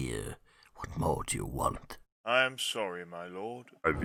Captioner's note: quietly